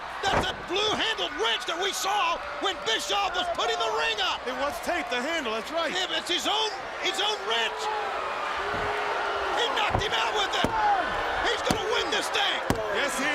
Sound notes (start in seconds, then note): 10.4 crowd cheering